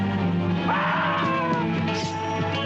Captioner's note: shrieking